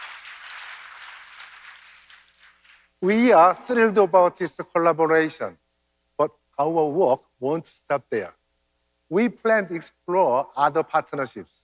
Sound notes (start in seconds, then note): 0.0 applause